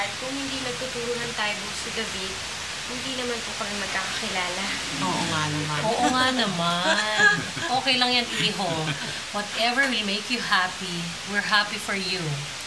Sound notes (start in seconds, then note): 6.6 chuckles